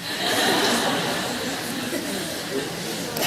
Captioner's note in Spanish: Risas